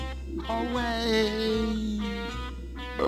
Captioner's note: quietly